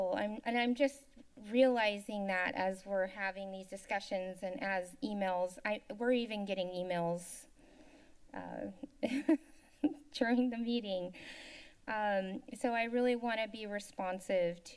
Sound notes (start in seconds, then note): 9.0 chuckles